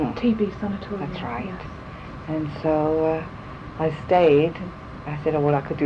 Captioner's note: laughs